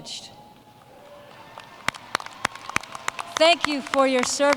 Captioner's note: applause